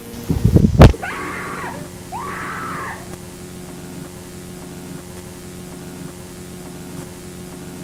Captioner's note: screaming